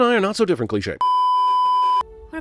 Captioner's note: beeeeeeeeeeeep